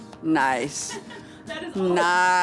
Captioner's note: laughs